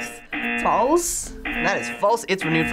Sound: buzzer rings

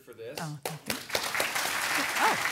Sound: clapping

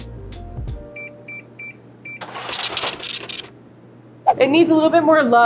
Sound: scale beeps and brrhs

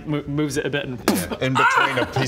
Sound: boof

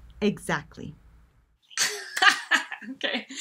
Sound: laughs

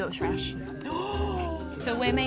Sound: gasping

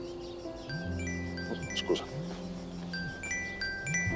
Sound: cell phone rings

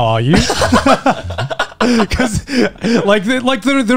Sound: all laughing

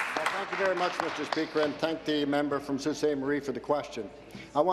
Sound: applause

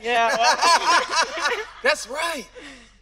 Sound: everyone laughing

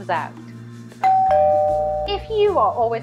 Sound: bell ringing

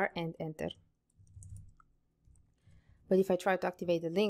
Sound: keyboard clicking

